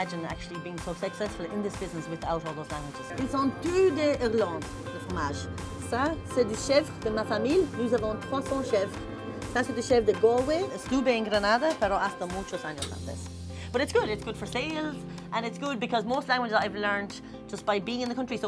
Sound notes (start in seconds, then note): 3.0 speaking French; 10.8 speaking Spanish